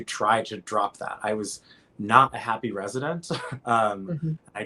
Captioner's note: laughs